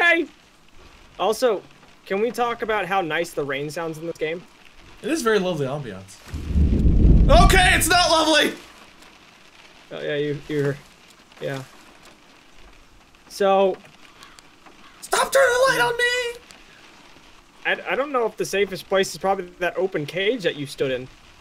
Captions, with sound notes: Also, can we talk about how nice the rain sounds in this game? It is very lovely ambience. *Thunder* Okay, it's not lovely! Y-yeah, y-you're... Yeah. So... Stop turning the light on me! I-I don't know if the safest place is probably that open cage that you stood in.